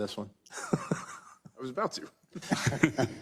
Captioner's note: laugh